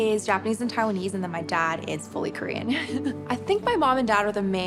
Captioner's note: laughs